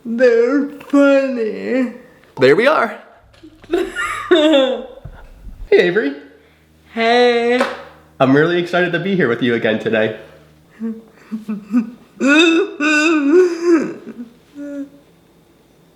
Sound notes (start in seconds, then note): 3.3 laughing; 10.7 laughing